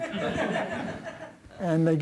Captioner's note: laughter